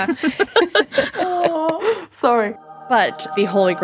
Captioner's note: laughing